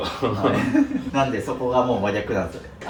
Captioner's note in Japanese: 笑い